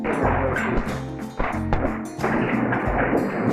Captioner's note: chairs thudding